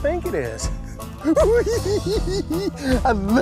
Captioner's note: laughs